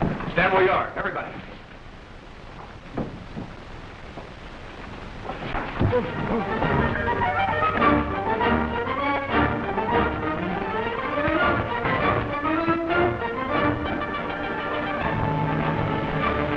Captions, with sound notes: - Stand where you are, everybody! (sounds of struggle) (suspenseful orchestral music)